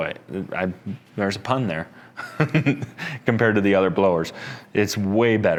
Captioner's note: laughs